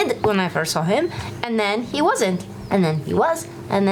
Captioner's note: none